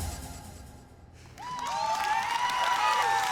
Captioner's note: cheering